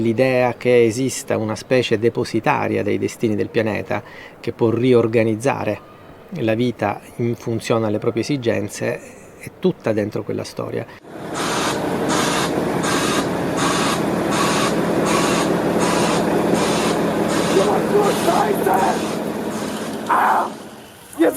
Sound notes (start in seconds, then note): 18.2 guy yelling in German